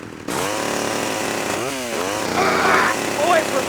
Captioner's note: engine noises